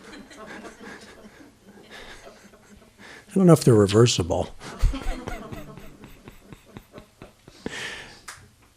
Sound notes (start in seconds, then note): 0.0 laughter; 4.6 laughter